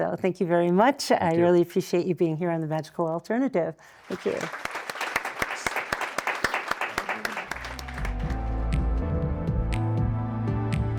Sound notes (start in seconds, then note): 6.0 audience applauding; 7.5 upbeat music